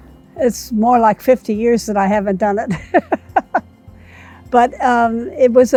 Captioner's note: laughing